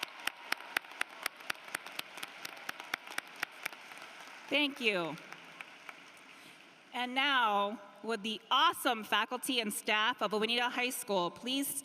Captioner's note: applause